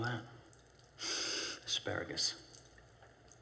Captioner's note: sniffs